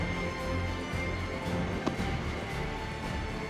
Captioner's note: claps